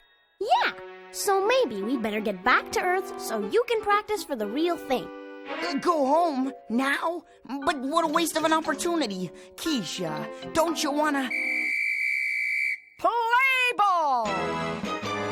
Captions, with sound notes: YEAH, SO MAYBE WE BETTER GET BACK TO EARTH SO YOU CAN PRACTICE FOR THE REAL THING. GO HOME? NOW? BUT WHAT A WASTE OF AN OPPORTUNITY. KEESHA, DON'T YOU WANT TO -- [ WHISTLE BLOWS ] PLAY BALL!